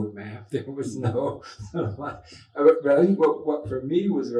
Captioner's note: laughs